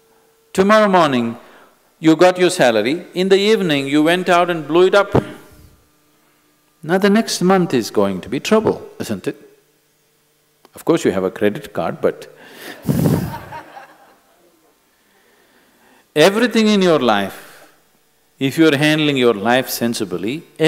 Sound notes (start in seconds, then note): 12.8 laughter